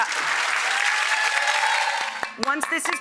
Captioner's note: audience applauding